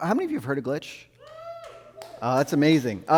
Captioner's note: audience member cheers